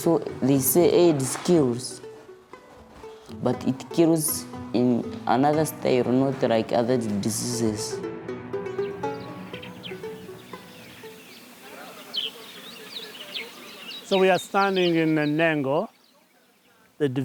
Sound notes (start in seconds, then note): 10.8 birds chirping